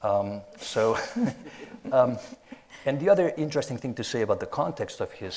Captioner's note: both laughing